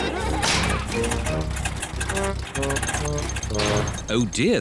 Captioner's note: all laugh; engine sputters